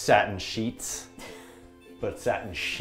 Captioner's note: laughs